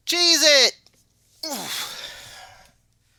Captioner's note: grunts